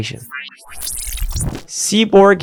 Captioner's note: machine whirring